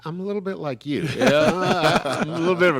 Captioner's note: chuckle